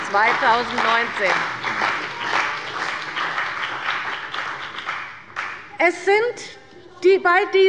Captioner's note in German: Beifall bei der CDU und dem BÜNDNIS 90/DIE GRÜNEN